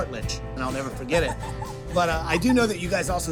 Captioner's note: laugh